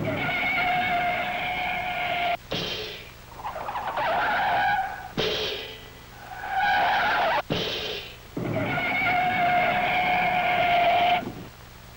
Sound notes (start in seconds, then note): 0.0 tires screeching; 2.6 cymbals crashing; 3.3 tires screeching; 5.2 cymbals crashing; 6.0 tires screeching; 7.6 cymbals crashing; 8.3 tires screeching